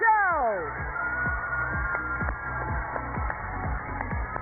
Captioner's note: cheers and applause